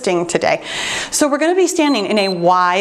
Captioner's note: timer beeps